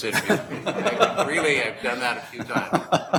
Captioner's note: laughing